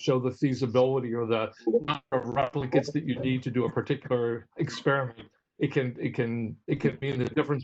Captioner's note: technology noise